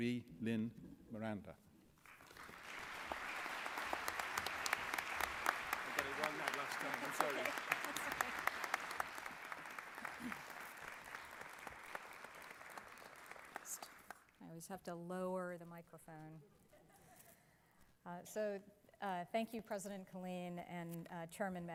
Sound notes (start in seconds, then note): 2.0 applause